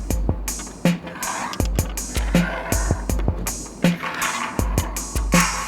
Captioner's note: calm music; stones dragging on wood